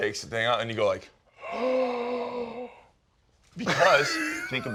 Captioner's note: gasping